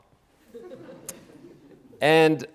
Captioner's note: audience laughing